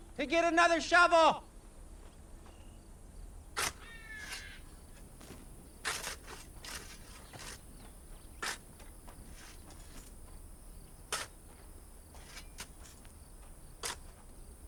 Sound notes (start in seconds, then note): 3.8 shovels scraping